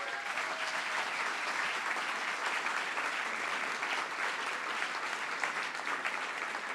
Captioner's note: cheering & Applause